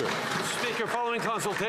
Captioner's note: some Applause